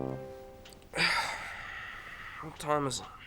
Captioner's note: sighs